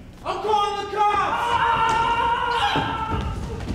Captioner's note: activist screams; gross person yelps